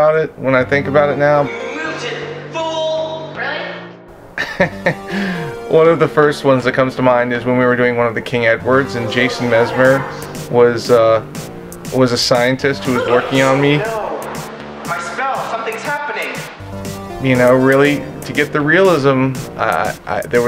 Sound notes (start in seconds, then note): 1.8 upbeat techno music; 4.3 chuckles